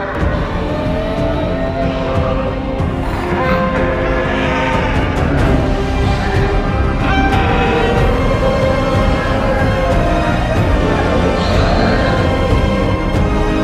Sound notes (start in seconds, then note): 1.7 parasaurolophus Sounds